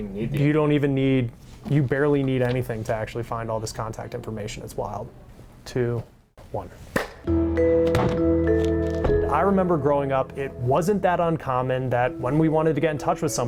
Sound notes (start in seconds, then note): 6.9 hands clapping; 8.1 light xylophone music